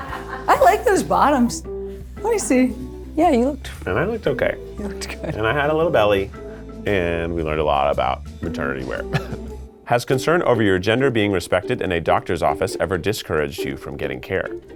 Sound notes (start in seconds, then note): 9.1 laughs